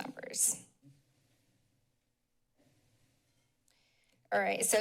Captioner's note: silence